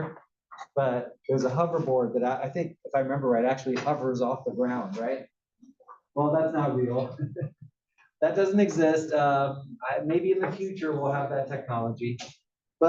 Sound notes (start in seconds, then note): 6.8 laugh